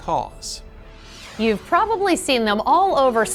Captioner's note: air whooshes